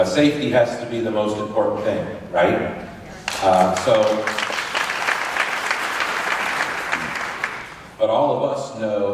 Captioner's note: applause